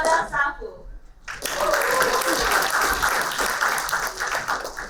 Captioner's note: applauding